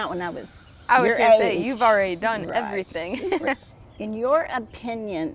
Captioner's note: chuckles